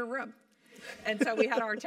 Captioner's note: laugh